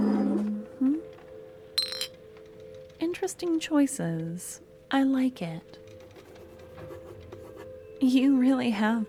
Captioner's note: writing noise